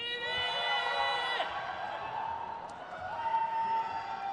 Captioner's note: crowd cheers